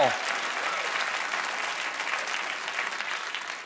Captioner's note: applause